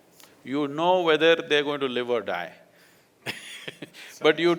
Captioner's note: laughs